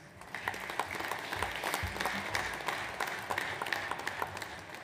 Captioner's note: audience applauds